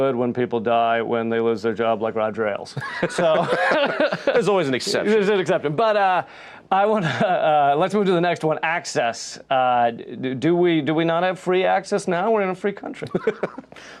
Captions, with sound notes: when people die when they lose their job like Roger Ailes. So-... [both laughing] - There's always an exception. - But I want to ... Let's move to the next one: access. Do we not have free access now? We're in a free country!